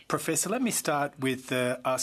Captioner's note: speaking French